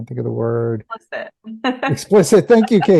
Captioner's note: laughs